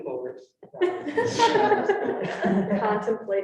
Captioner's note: students laughing